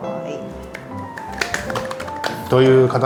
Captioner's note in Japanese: 拍手！